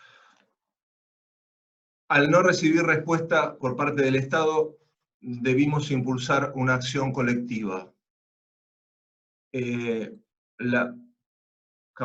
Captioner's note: Spanish